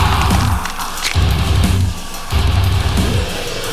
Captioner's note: snarling